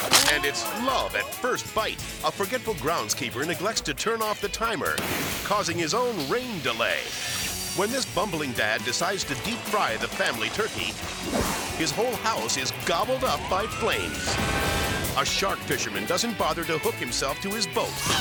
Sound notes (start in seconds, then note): 5.0 water exploding; 11.5 air swoosh; 14.2 roof exploding; 14.5 sirens blaring; 18.0 fisherman screaming